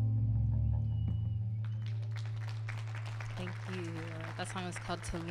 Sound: audience applauding

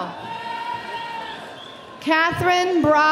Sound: audience cheering

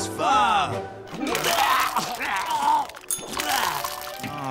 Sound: vomiting

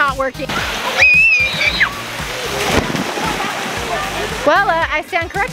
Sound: screams

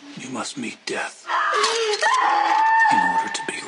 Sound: screaming

